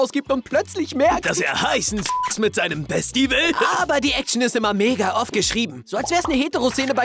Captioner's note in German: beep